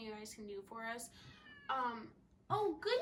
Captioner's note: meows